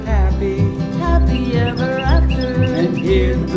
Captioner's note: birds chirping